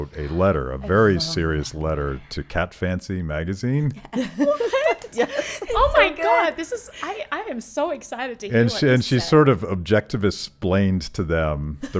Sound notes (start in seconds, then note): 4.0 laughing